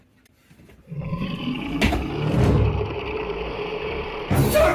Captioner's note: Cerberus roaring